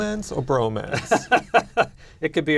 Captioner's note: laughs